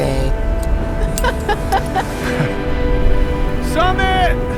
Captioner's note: both laughing